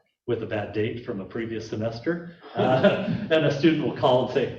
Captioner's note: laughing